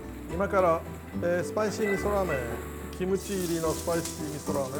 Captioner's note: speaking in Japanese